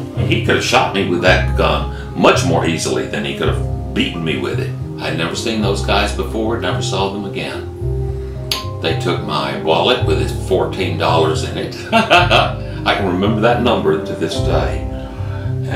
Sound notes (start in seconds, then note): 11.8 laughs